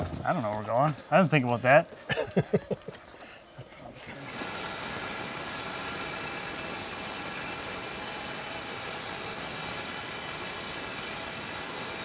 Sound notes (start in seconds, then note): 2.0 laughs